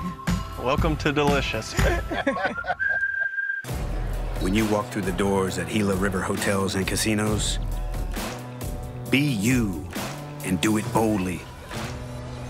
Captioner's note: laughs